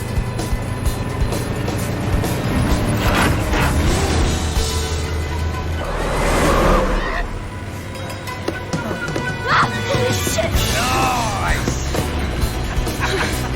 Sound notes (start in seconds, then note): 9.4 screams